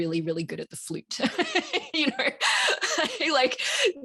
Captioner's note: laughs